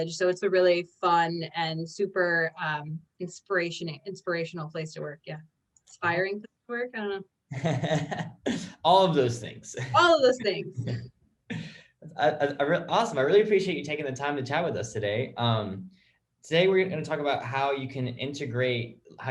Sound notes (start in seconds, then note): 7.6 laughs; 10.4 chuckles